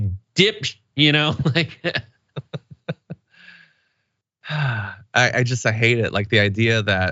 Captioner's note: laugh